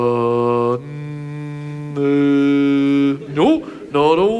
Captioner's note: Ted E humming